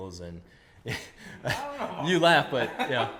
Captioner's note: laughs